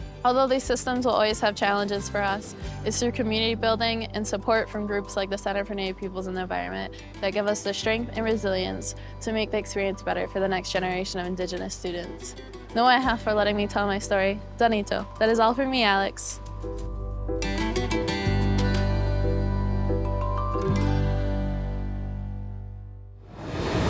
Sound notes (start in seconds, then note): 14.5 speaks Seneca; 16.6 gentle music